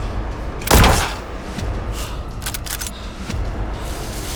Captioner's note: gun fires and clacks